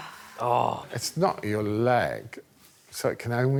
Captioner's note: sighs